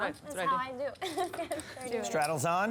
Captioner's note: laughs